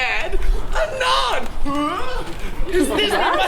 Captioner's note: grunts